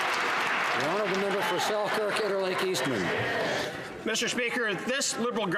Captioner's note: some Applause